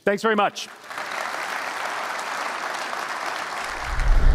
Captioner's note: applause